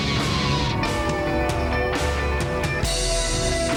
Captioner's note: siren wailing; sultry music